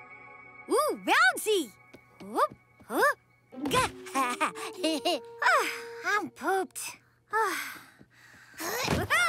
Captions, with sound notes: Ooh, bouncy! ( sighs, giggles ) Oh, I'm pooped.